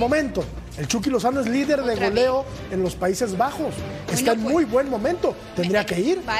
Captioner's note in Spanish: todos hablando